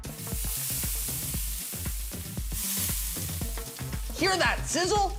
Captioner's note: sizzling